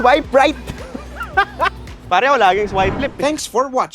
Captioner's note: laughs